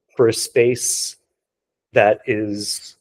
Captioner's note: none